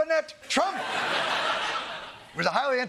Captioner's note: laughter